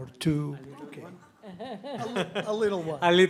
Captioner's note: laughing